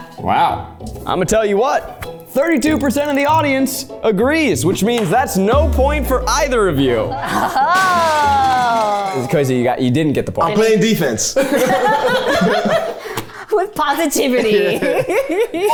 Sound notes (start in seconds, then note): 11.4 everyone laughs